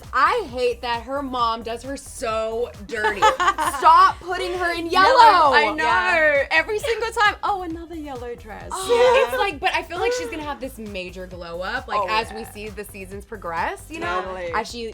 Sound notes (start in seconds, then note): 3.0 laughs; 8.6 chuckles